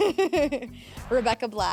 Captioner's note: laughs